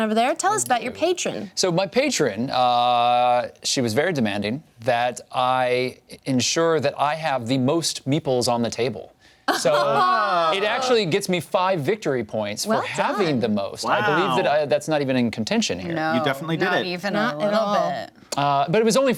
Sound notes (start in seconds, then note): 9.5 laughs